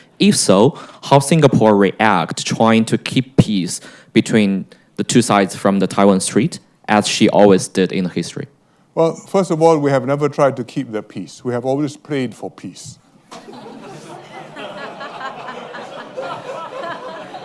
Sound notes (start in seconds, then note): 13.3 laughter